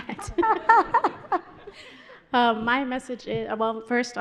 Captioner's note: panelists laughing